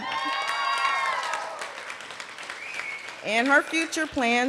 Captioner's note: cheering and applause